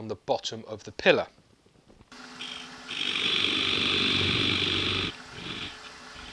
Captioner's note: machine and tool noises